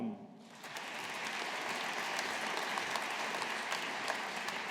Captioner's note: audience applauding